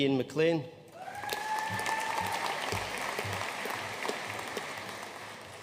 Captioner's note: audience cheering and applauding